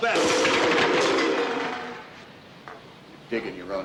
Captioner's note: cans clanking